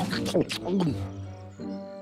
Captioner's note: carrots crunching; gulping